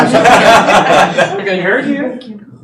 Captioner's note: laughter